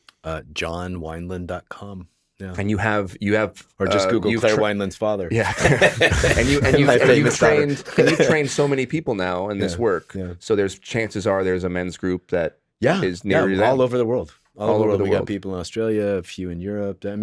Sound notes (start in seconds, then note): 5.3 laughs